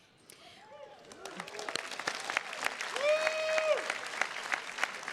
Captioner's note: attendees cheers and claps